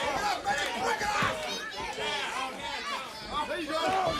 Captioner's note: crowd cheering